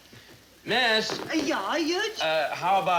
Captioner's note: accented